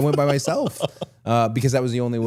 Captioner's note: Chad laughs